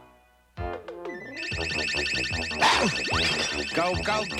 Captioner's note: blowing whistle